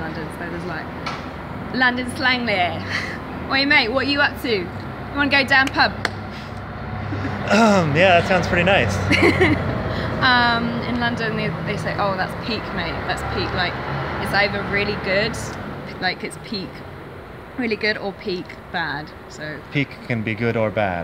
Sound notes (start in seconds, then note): 5.6 clapping; 9.1 laughing